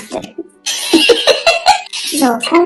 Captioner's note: laughs